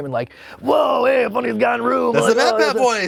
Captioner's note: gravelly voice mumbling